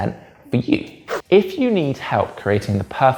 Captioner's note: page whips